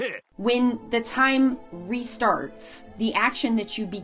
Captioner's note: foreign language 00:04:34